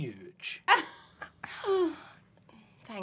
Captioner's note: winces